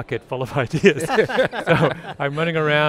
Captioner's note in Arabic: ضحك